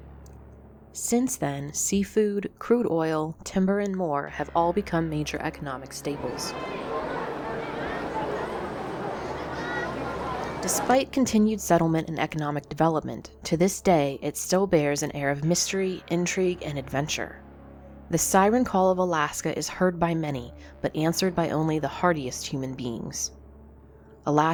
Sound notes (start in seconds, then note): 6.1 crowd chattering